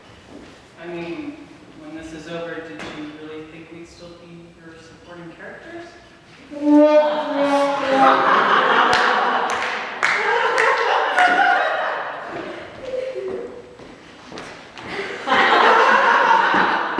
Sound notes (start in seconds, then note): 6.6 a loud "sad trombone" sound effect" and audience laughter; 14.9 the sound of a door opening and closing, audience reaction and laughter